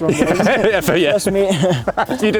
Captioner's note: laughing